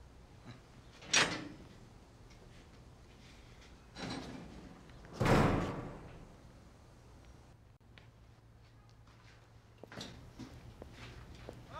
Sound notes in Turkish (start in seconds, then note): 1.0 Kapı açılma sesi; 5.1 Kapı kapanma sesi